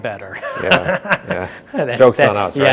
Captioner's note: laughing